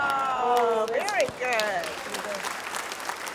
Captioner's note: applause